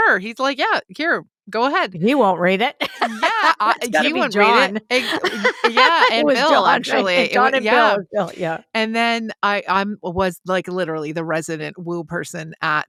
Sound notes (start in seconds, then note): 2.8 laughs